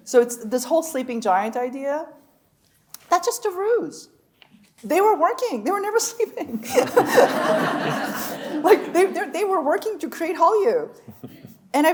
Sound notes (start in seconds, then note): 6.5 chuckling; 6.6 audience laughing